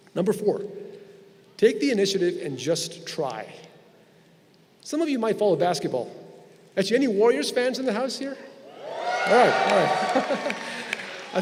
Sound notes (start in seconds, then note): 8.6 crowd cheering